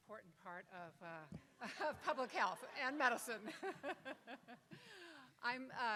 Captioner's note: laughs